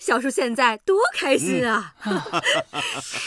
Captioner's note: 哈哈哈